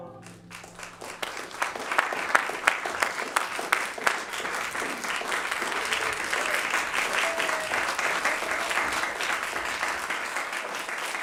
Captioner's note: applause